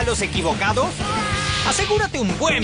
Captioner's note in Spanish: Santa Claus grita